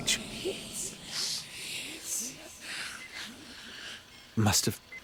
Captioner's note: ghostly voices